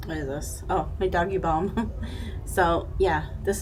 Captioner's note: chuckling